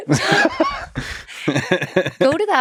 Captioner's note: Lex laughs